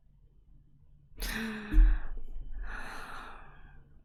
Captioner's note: gasps